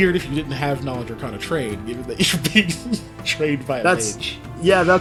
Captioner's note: laugh